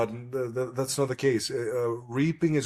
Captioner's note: laughs